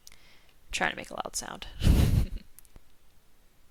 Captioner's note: chuckles